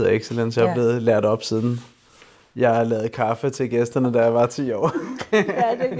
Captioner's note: laughs